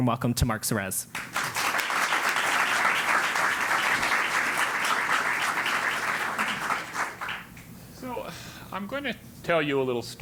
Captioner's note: applause